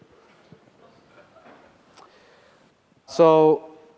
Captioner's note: laughter